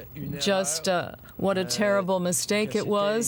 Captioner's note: speaking French